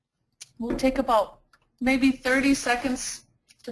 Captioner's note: voiceover